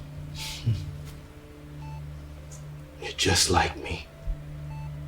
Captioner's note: laughing